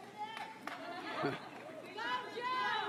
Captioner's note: applause